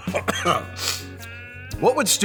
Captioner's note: coughs; sniff